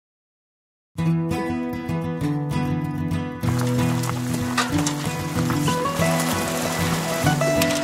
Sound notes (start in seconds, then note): 3.6 running water